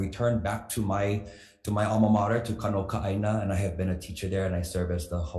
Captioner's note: speaks foreign language